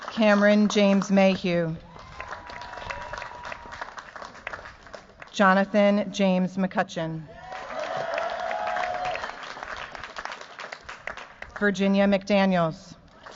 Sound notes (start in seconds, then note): 1.8 cheers, applause; 7.3 cheers, applause; 13.1 cheers, applause